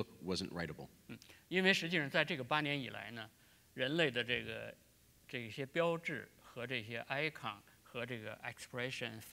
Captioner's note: speaking in Chinese